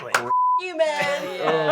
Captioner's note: Riz claps